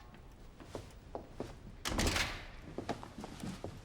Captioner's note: door opening